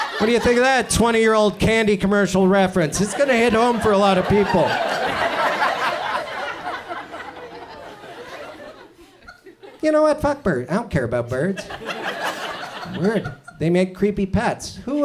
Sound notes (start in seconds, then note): 4.8 audience laughs; 11.3 audience chuckles